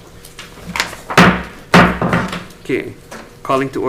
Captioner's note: gavel bangs